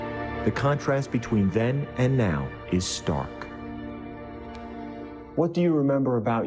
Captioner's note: voiceover